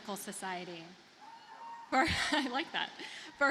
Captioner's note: audience cheers; laughs